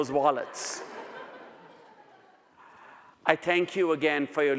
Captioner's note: audience laughs